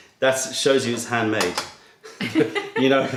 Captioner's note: laughter